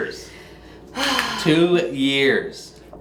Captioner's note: sighing